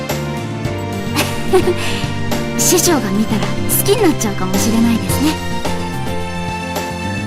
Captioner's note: giggles